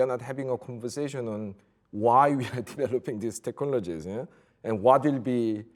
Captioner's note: chuckles